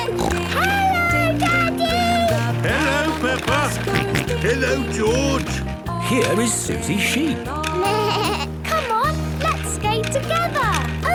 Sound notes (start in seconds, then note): 0.0 snorting; 4.0 George snorting; 7.8 bleating